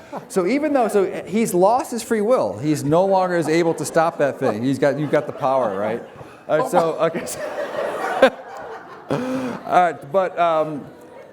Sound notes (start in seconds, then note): 7.3 laughter